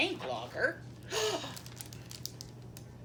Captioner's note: gasp